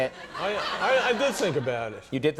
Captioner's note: audience laughing